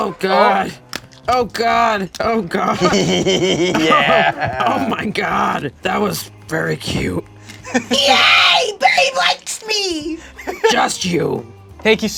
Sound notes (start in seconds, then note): 7.5 laughs; 8.0 screeches